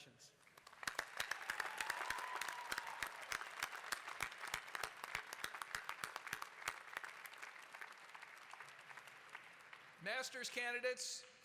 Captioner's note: applause